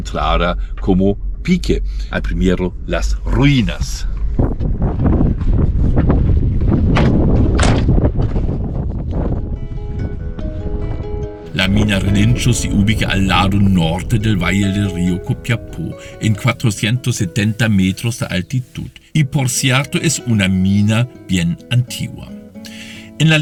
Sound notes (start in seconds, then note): 7.9 wind, Music